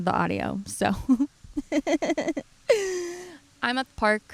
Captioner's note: laughs